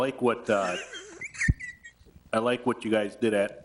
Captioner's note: laughs